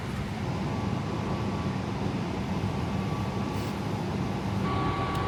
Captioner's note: engine rumbling